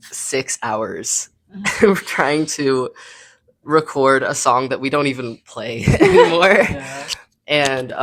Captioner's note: laughing